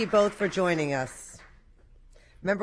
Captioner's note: applause